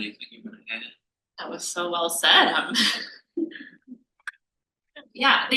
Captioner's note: laughs